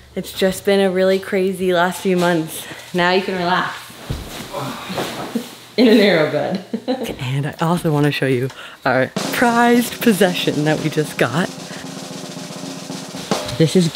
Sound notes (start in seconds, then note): 4.5 sighs; 6.8 laughs; 11.6 drum roll playing